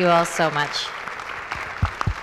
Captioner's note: applause